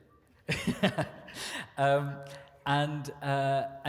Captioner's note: chuckles